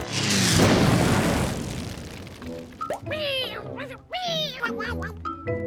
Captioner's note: crashing; toy plane whirring overhead; engine sputtering; plane crashing; jaunty music